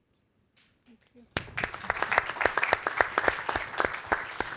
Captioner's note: audience applauding